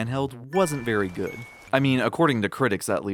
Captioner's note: rainfall